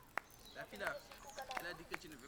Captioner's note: speaking in french